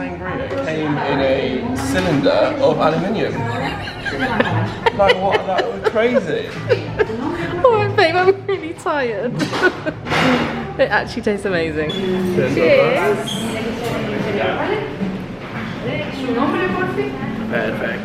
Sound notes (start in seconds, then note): 3.6 laughing